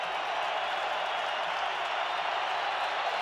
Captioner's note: crowd cheering